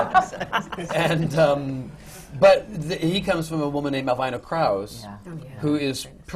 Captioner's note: laughter